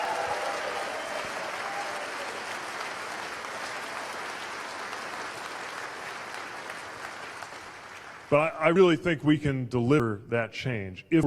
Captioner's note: cheers/applause